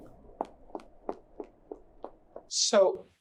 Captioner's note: footsteps pacing